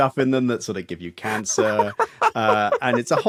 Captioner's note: giggles profusely